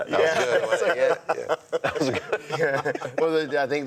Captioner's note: laughs